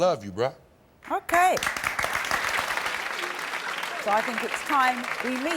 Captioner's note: crowd applauds